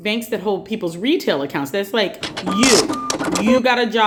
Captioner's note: ATM sounds